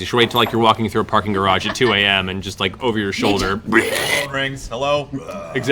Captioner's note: belches